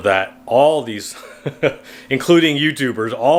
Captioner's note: laughs